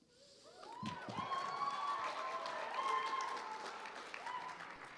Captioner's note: applause